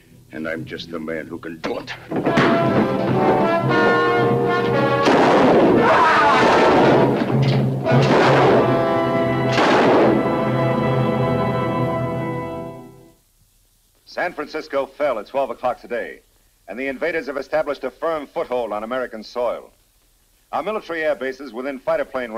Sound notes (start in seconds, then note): 1.9 fist thuds; 2.9 suspenseful music; 4.8 gun firing; 5.8 George groans